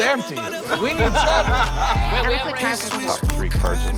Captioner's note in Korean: 웃음 소리